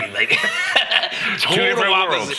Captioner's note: laughing